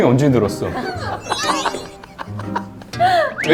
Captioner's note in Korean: 꺄르르